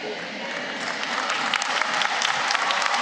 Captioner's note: applause